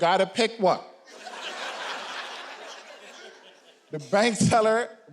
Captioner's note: audience laughing